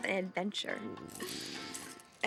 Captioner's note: stomach growls